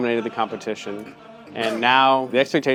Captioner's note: all laughing